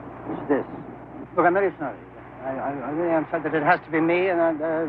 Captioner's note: none